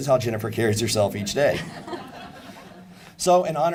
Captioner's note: audience laughs